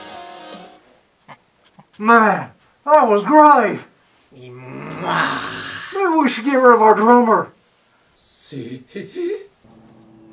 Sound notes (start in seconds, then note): 1.2 snivel